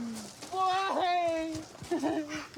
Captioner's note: sobs